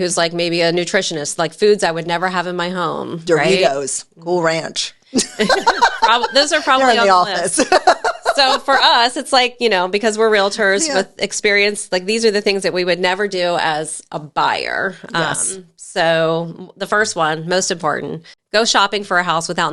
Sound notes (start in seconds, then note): 5.2 laughing